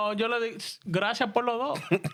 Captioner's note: speaking In Spanish